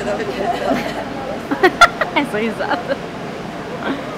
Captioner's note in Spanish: risas